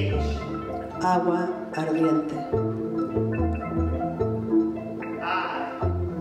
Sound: speaking in Spanish

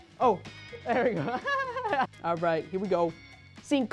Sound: laughs

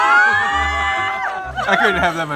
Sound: screaming

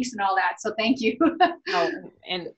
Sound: laughs

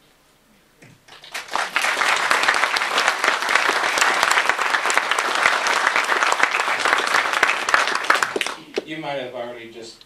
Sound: applause

